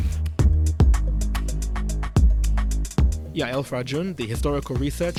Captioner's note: voiceover